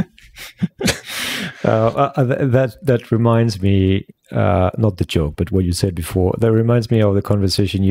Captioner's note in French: Rires